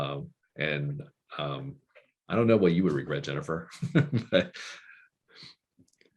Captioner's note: laughing